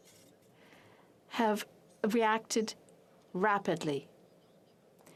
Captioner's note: speaking in french